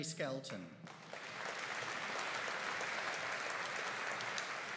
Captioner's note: audience applauding